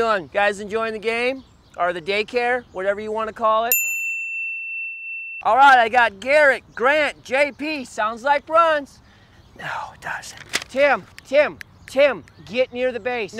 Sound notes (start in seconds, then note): 3.7 bell dings